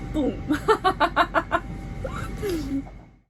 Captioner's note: laughing